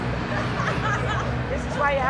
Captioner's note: guests laughing; woman laughing